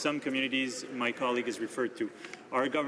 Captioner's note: speaking French